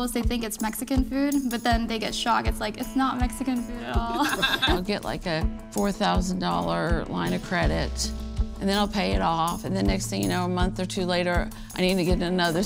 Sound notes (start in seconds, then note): 4.0 laughter